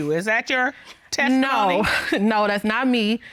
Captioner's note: chuckles